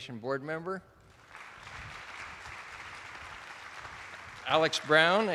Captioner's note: attendees applauding